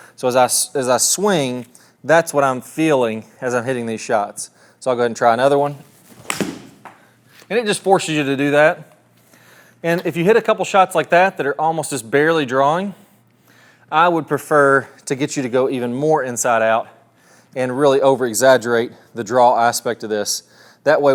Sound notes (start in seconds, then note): 6.2 club striking